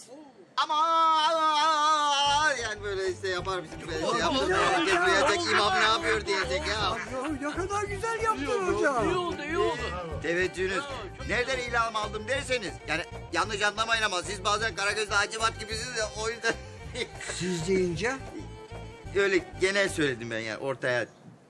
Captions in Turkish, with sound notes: Amaaan ! Yani böyle işte... (Gülüşmeler) Ne kadar güzel yaptın hoca. İyi oldu, iyi oldu. Teveccühünüz. Nereden ilham aldım derseniz yanlış anlamayın ama siz bazen Karagöz'le Hacivat gibisiniz ya o yüzden. Siz deyince ? Öyle genel söyledim ben, ortaya.